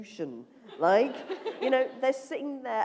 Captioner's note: laughter